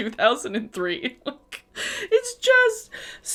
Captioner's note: laughs